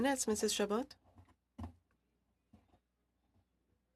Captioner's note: speaking French